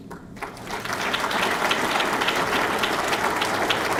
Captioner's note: audience clapping